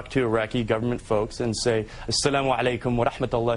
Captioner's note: speaks in Arabic